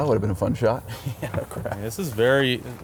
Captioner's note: laughs